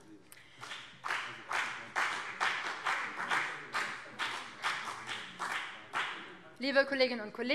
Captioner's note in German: Beifall